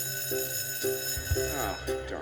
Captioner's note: bell rings